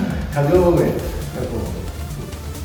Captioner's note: laughs